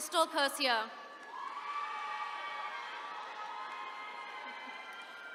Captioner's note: attendees cheering